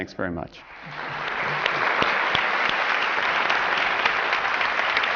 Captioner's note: applause